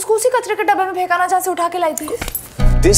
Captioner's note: Slapping